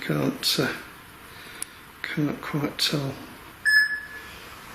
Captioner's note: beeping